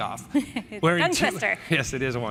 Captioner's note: laughs